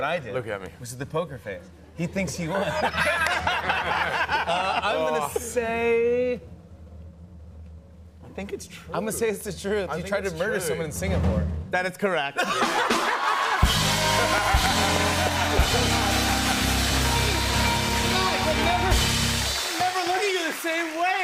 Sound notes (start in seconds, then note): 2.4 laughter; 12.4 laughter and applause